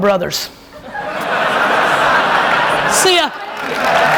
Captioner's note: audience laughs; applauding